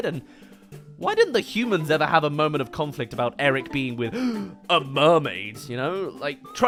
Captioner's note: gasp